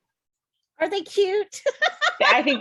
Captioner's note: laughs